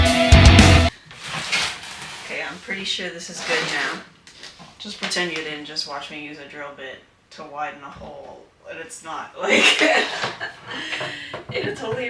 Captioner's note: laughs